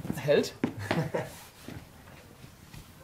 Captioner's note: laughter